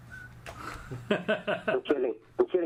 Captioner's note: laughing